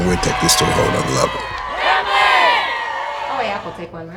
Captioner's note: players cheering